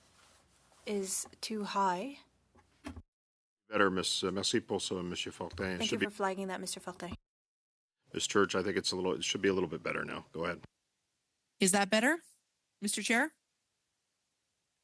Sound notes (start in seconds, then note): 10.8 speaking French